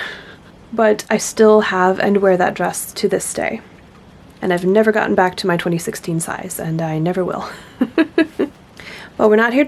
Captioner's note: laughs